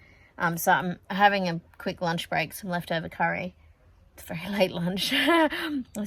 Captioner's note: scoffs